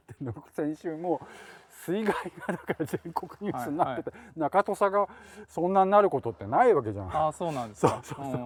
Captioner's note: laugh